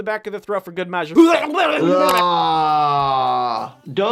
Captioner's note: groaning; person retching